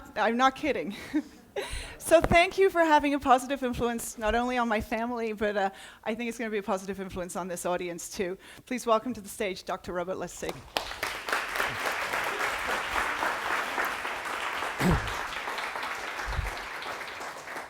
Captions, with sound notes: I'm not kidding. So thank you for having a positive influence, not only on my family, but I think it's going to be a positive influence on this audience, too. Please welcome to the stage Dr. Robert Lustig. [APPLAUSE]